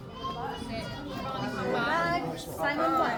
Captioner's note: crowd chattering